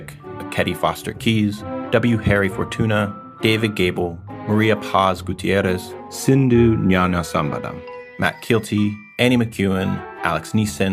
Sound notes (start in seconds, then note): none